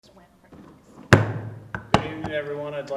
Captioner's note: gavel bangs